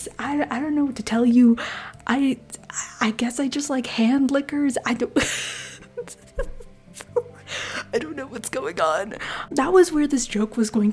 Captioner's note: laughter